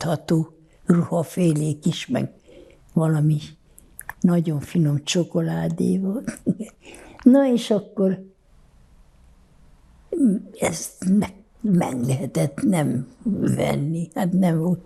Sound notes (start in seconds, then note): 6.1 laughing